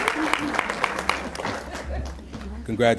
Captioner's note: applause